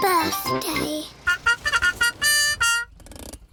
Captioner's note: horn tooting